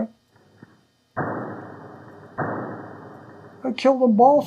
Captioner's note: two distant gunshots